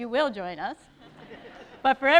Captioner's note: audience laughs